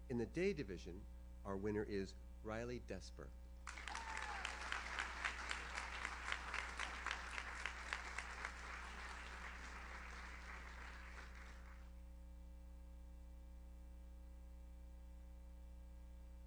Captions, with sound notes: In the day division, our winner is Riley Desper. (audience cheers) (audience applauds)